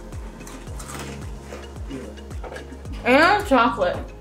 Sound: ice crunching

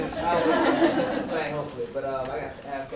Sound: audience laughs

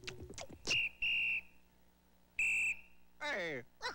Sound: whistle blowing

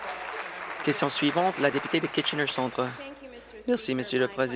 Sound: applause

